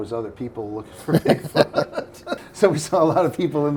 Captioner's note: laughing